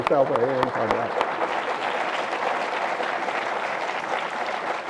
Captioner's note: audience applause